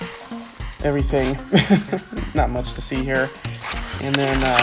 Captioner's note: laughs